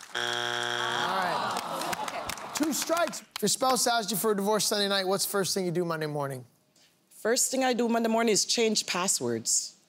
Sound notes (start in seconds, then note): 0.0 buzzer sounds; 0.9 audience moans